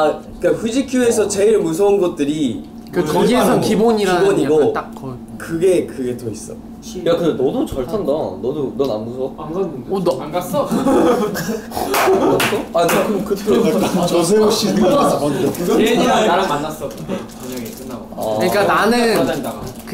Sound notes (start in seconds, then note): 10.6 laughing